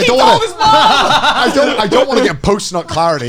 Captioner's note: both laughing